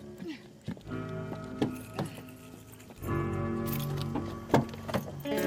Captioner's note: car doors opening